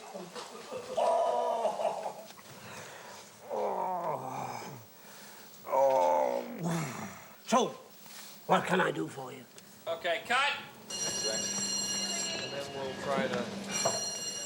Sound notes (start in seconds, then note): 0.4 laughing; 3.4 groaning; 10.8 bell Rings